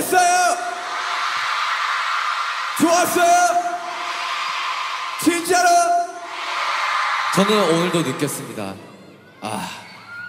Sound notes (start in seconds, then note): 0.9 cheering